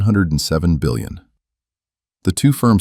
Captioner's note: beat